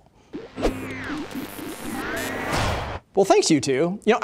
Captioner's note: radio tuning